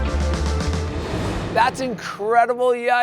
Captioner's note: uplifting music; air whooshing